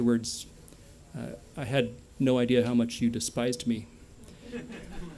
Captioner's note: laughter